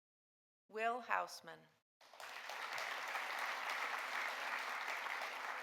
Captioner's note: audience applauding